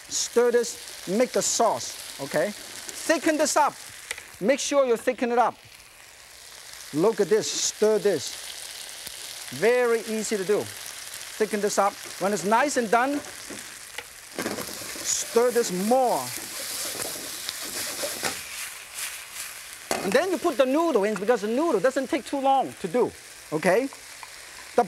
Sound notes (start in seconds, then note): 16.5 pan sizzles